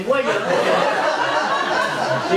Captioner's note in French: rires public